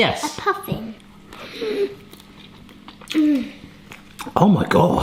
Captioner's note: gasps